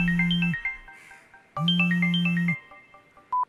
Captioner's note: phone Ringing